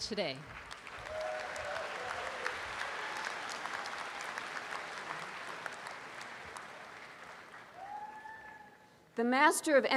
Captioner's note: applause